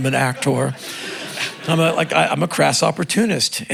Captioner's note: crowd laughing